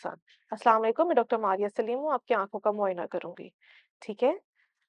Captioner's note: in Urdu